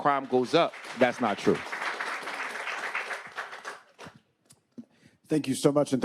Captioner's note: attendees applauding